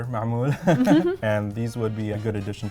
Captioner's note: both laugh